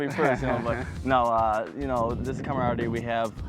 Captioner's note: laughing